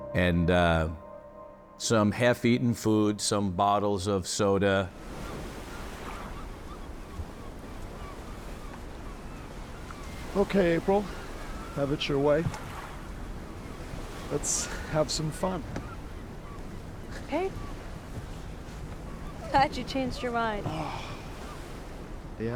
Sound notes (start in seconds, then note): 5.3 birds squawking; 5.3 waves lightly crashing; 20.7 Billy sighs loudly